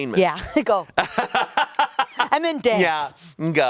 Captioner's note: laughs